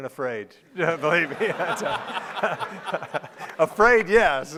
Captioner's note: laughing